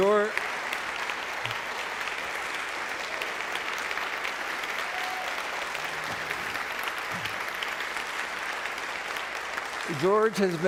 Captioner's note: background Applause